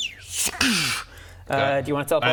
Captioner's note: zzrch-crssch